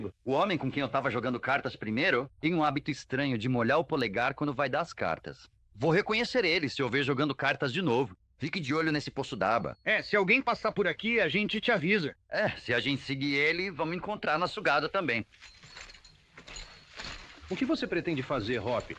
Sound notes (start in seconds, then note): none